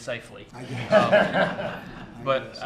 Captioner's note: laughter